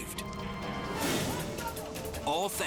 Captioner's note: scene swooshing